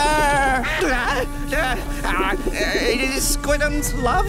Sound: groaning

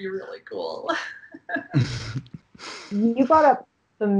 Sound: laughing

